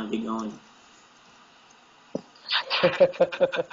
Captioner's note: laugh